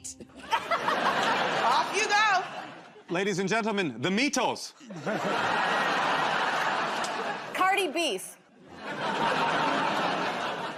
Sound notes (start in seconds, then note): 0.3 laughter; 4.8 laughter